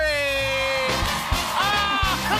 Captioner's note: cheers and applause